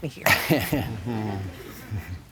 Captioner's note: chuckles